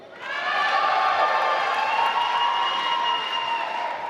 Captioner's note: applause